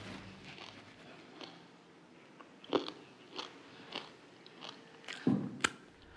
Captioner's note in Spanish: ruido al masticar